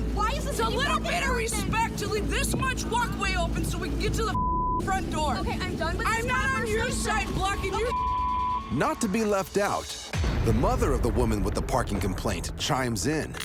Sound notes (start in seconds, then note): 4.3 beep; 7.8 beep